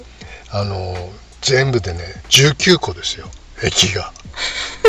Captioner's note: laughs